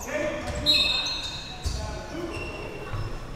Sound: whistle

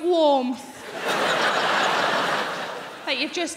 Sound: crowd laughing

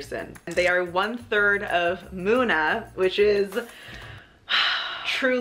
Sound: sighs

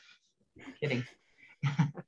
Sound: laughs

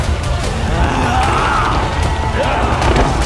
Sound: thief shouting

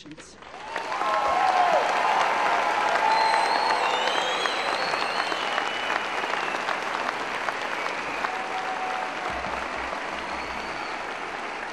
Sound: applause

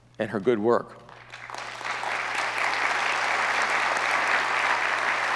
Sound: audience applauds

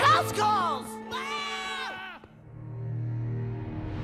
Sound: screaming

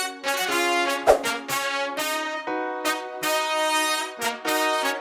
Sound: screen swooshing

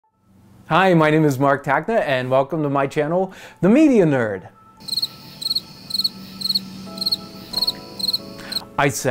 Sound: cricket sounds

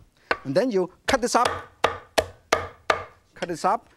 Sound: chopping

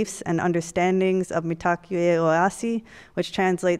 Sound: speaks foreign language

